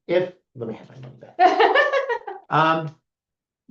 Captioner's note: laughs